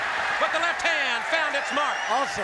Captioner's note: crowd cheering